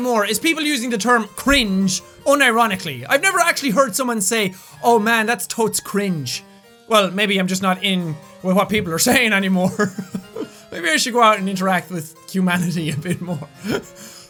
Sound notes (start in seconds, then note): 9.6 laughs; 13.5 laughing